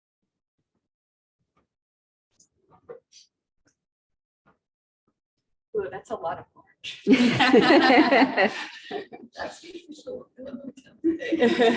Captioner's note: audience laughing